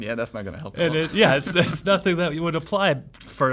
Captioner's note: laughs